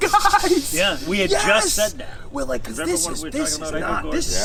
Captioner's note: laughing